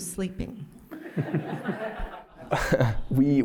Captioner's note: laughter